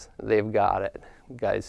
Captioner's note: none